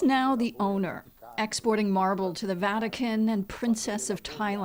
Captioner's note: speaking alternate language